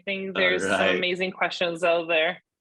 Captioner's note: laughs